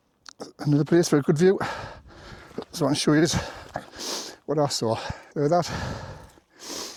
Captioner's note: snorts